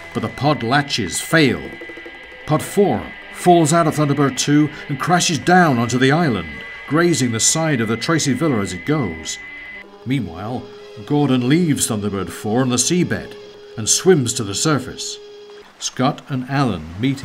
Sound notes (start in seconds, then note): 11.1 submarine whirring; 15.5 waves splashing